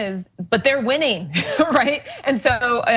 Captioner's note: laugh